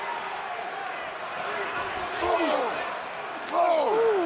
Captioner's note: crowd chatter